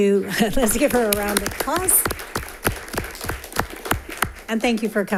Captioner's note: audience applauding